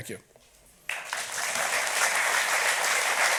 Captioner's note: audience applauds